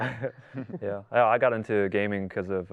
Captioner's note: laughs